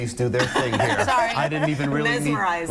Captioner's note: laughter